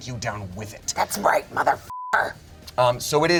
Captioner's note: beep